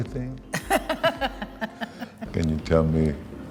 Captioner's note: laughs